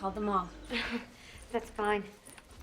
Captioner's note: chuckles